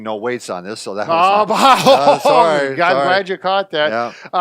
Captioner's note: laughs